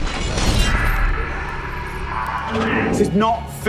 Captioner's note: screams